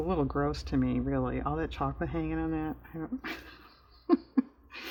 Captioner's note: laughs